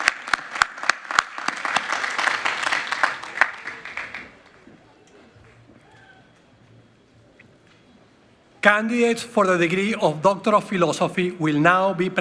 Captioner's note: applause